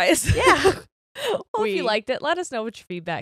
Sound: laughs

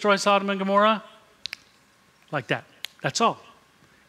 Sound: snaps fingers

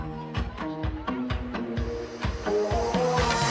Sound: chatter

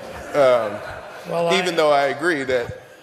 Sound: laughter

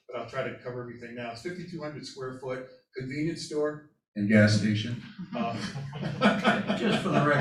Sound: laughter

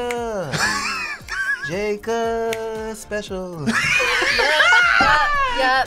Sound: React laughs

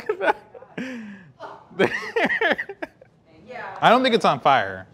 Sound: laughing

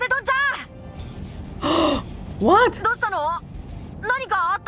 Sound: gasps

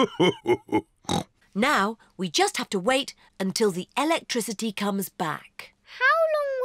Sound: laughs; snorts

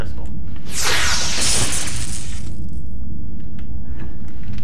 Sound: phase pistol audio effect

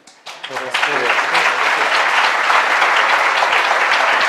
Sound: applause

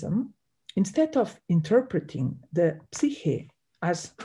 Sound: speaks in Greek

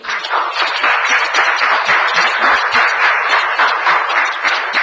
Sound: audience applauds

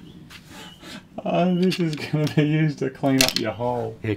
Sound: chuckling

